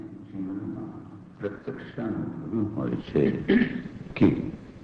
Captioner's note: speaking foreign language